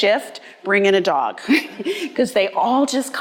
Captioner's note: laughing